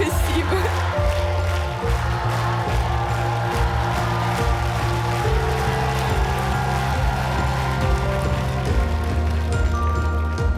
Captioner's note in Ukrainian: оплески